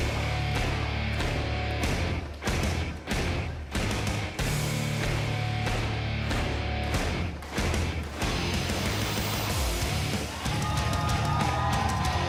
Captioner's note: crowd cheering